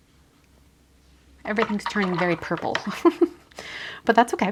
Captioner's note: giggles